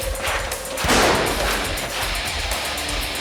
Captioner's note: rock music; gun fires